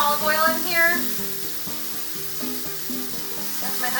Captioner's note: pan sizzling loudly